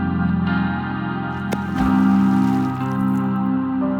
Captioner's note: beaver splash